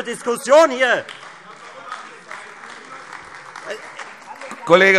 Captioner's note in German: Beifall Freie Demokraten und vereinzelt AfD